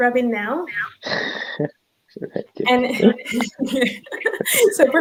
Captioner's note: chuckling